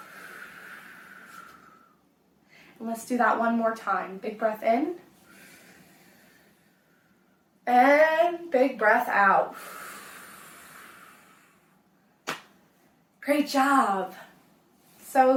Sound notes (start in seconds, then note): 0.0 exhale; 5.2 inhale; 9.5 exhale